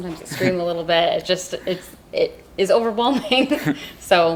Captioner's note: laughs